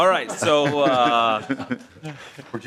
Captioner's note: laughing